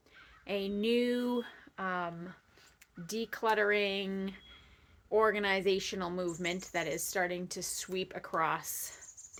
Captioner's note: birdsong in background